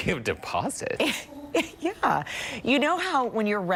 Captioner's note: laughter